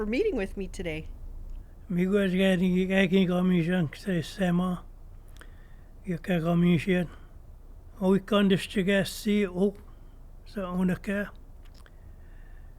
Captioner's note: speaks in Anishinaabemowin